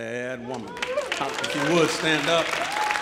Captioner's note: audience applauding